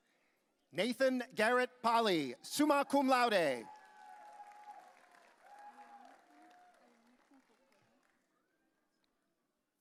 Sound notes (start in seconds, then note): 4.5 audience cheering